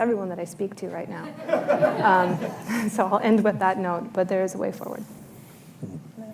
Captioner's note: laughter